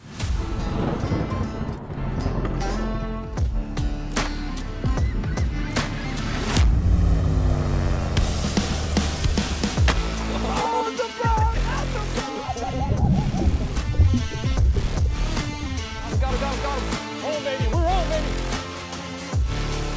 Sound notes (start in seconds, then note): 0.3 thunder crashing; 4.4 gulls cry; 9.3 water splashing; 10.3 person laughing; 19.7 upbeat music